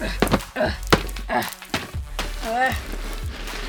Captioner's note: grunting